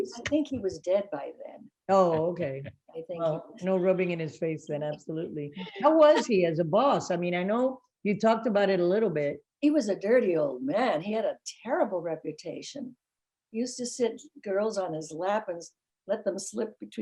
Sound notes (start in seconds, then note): 2.9 laughing